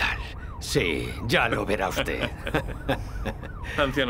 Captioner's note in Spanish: risas